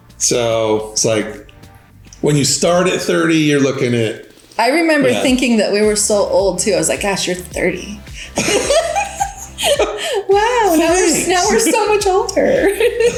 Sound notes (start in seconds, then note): 8.1 both laugh